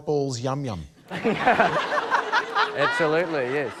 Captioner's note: laughter